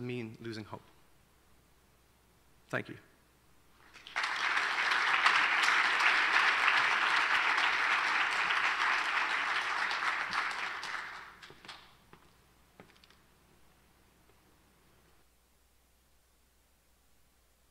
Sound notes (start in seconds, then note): 3.8 applause